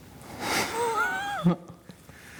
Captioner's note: laughs